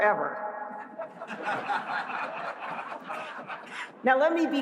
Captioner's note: laughter